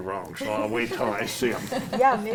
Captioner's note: laughs